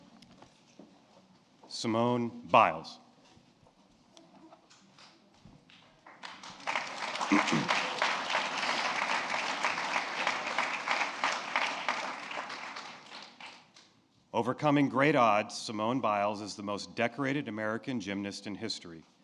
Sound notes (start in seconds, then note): 9.2 applause